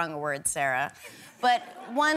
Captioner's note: laughter